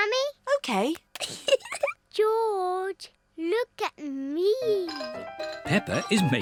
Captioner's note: giggles